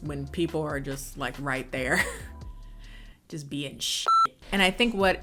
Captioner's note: beep